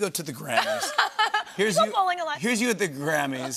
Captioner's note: laughter